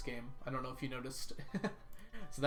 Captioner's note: laughs